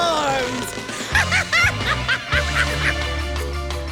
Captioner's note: laughing